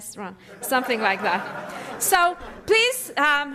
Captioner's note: laughter